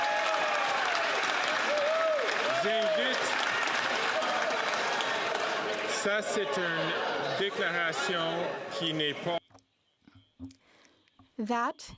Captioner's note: some Applause